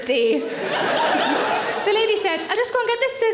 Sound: audience laughing

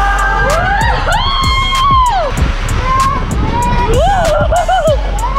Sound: shouting

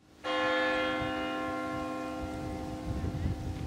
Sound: bell ringing

